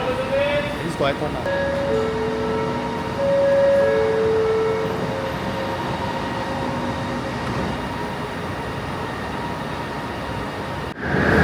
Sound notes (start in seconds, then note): 1.3 doors closing